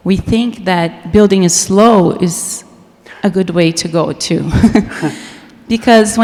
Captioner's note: laughs